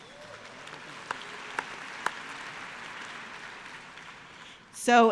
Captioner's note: applause